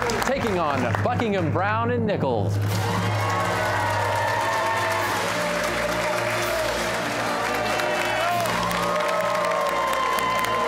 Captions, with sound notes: ...taking on Buckingham Browne & Nichols. (cheers and applause)